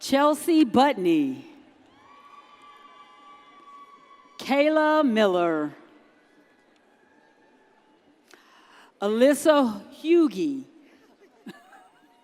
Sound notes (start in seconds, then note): 1.9 audience cheers